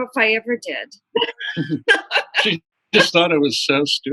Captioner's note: laughter